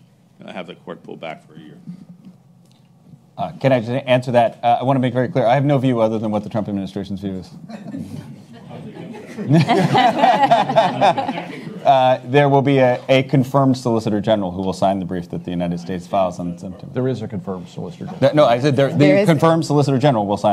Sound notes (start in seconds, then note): 7.7 audience chuckles; 10.1 attendees laugh